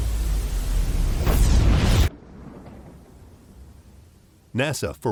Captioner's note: explosion booming